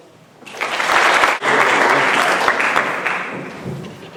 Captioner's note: audience clapping